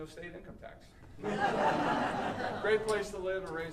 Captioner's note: audience laughing